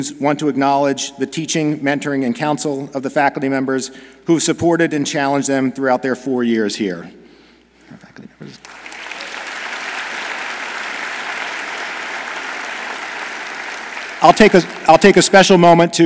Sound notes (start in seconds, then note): 8.6 audience applauds